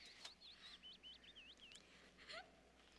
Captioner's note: sobbing